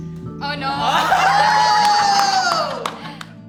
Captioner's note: everyone cheers & laughs